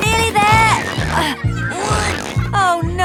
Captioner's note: grunting